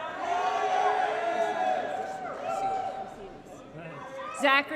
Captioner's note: applause & Cheering